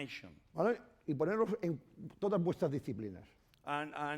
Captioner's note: speaking spanish